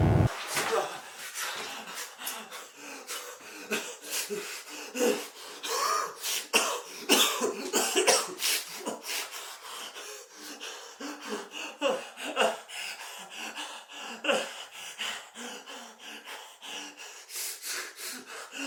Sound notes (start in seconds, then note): 2.1 Phil panting; 2.8 Phil wheezing; 7.1 Phil coughing; 10.7 Phil wheezing; 14.6 Phil panting